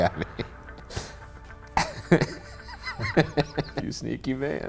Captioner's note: laughing